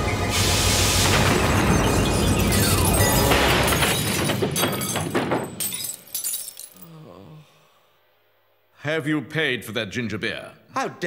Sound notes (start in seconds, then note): 1.0 boom!